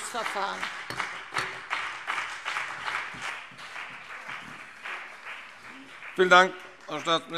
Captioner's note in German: Beifall CDU und BÜNDNIS 90/DIE GRÜNEN